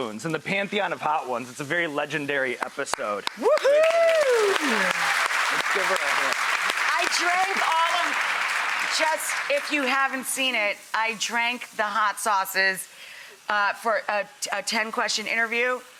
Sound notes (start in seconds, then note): 3.2 clapping and cheering; 3.2 claps